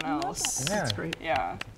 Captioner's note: clapping